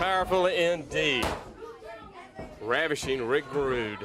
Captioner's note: crowd chatter